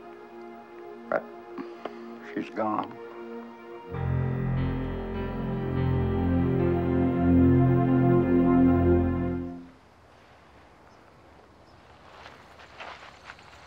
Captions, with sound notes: but she's gone. (somber music) (birds chirping)